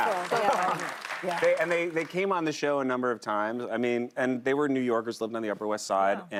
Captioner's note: applause